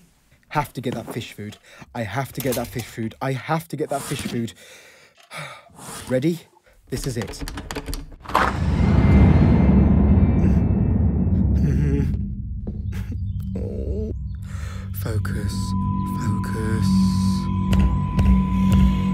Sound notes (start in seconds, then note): 4.5 deep breathe; 7.1 quickly door knob turning; 8.5 loud overwhelming rushing; 10.2 fearful stammering; 12.5 birds chirping; 13.2 woefully groaning; 14.4 deep breath; 15.5 ominous droaning